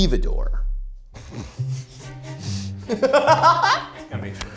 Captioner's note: group laughs